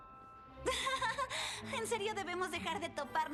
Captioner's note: nervous laughter